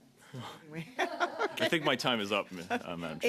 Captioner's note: laughter